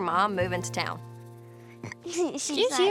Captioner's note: burps; giggling